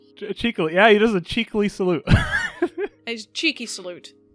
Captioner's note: laughs